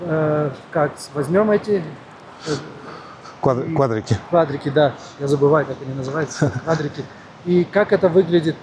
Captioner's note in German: gelächter